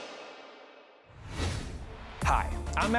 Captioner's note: air whooshing